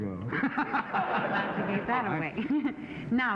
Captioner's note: laughing